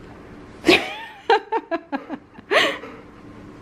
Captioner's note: laughing